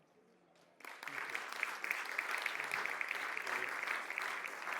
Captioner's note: audience applauds